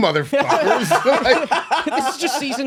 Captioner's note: laughing